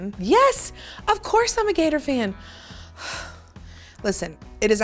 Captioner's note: sighs